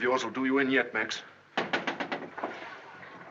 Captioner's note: knock at door